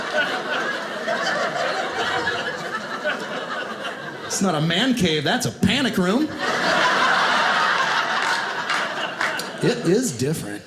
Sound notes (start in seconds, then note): 0.0 audience laughing; 6.2 audience laughing